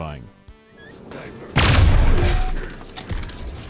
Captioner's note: bdow